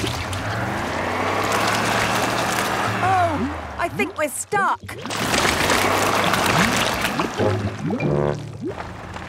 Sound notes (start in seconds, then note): 0.0 sloshing, tires whirring; 5.5 whirring